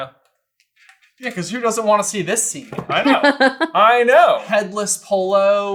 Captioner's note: laughing